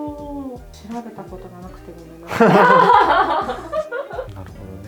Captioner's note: laughter